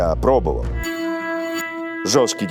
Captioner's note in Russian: устрашающий звук